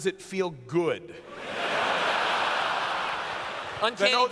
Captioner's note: laughter